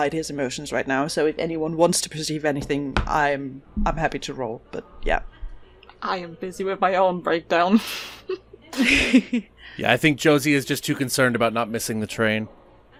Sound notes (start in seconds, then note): 8.1 laughs